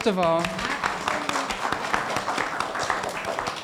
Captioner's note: applauding